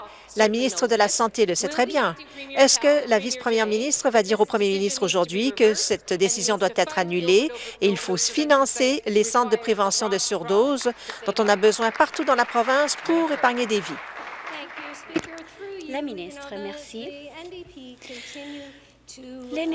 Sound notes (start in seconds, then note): 15.4 applause